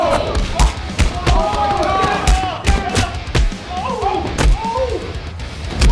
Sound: hitting sounds

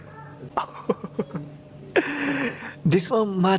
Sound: laughs

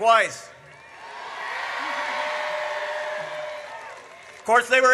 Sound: audience cheers

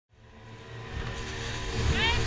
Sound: boat motor

